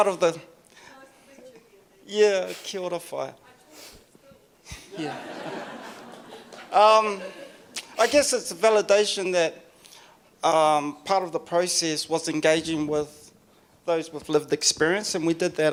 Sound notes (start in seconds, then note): 4.9 audience laughs